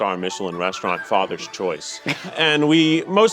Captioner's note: laughing